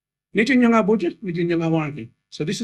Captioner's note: Speaking in Noongar